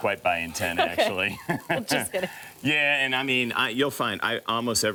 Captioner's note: laughs